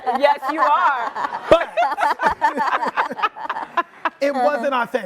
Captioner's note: laughing